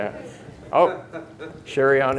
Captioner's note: audience member laughing